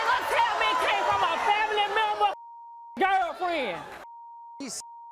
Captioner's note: beep